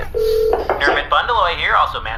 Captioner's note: phone ringing; giggling